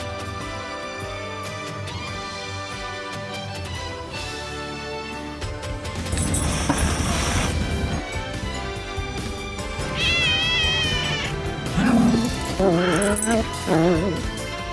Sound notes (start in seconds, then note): 6.0 hisses; 9.8 meows; 10.0 growls